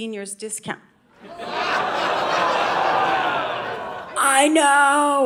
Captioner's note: audience laughing